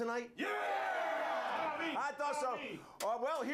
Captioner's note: audience cheering